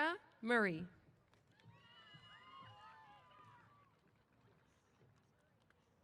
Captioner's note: applause & Cheers